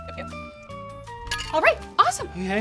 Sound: ice clinks

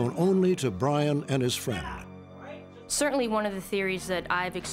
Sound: none

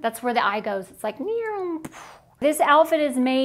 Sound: bombing

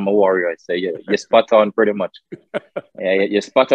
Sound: Sadhguru laughs

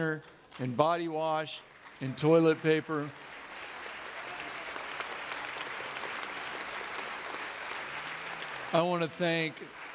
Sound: audience clapping

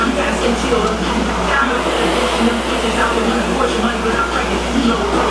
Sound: rower roars lightly

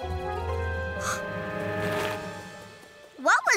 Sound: Tangerine gasps

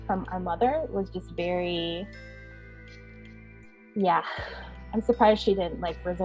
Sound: sighing

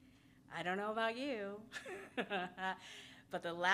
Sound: laughs

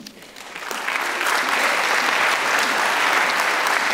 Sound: applause

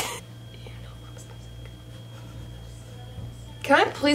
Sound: whispering

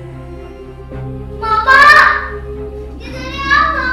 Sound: screaming

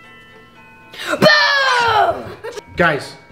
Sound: Parker screams

